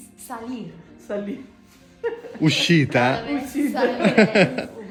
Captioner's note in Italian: Risate